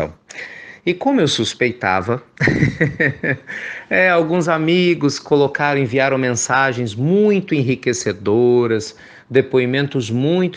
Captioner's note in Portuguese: risos